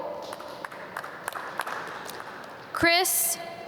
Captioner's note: audience clap